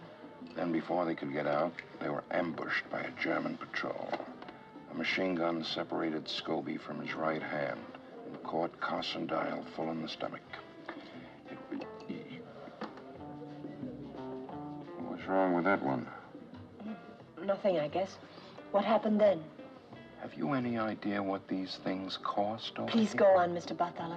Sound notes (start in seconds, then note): 11.2 stammering